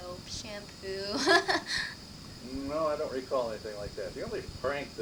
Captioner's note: chuckles